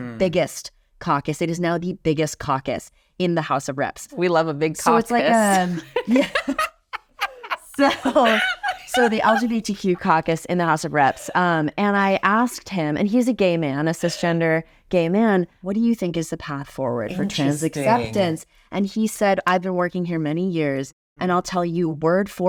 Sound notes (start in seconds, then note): 7.2 all giggle; 9.2 giggles